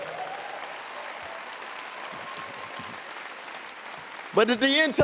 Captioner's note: applause